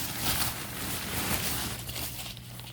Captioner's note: tent rustling